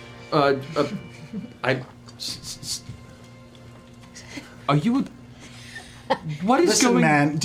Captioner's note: stuttering